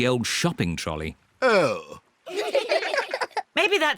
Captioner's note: all giggle